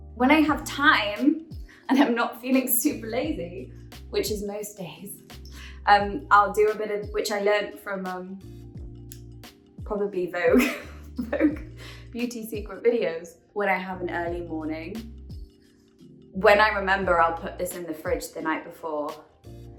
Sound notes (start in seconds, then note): 10.5 giggles